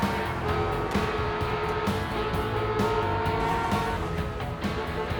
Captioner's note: horns honking